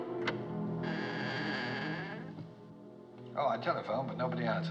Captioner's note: door Opens, Hinges Creak